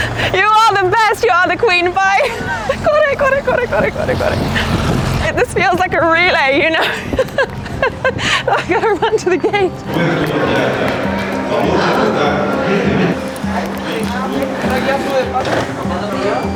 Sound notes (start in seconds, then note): 8.3 laughs; 13.5 excited music